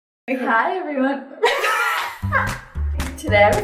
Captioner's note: both laugh